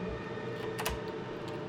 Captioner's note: door Opens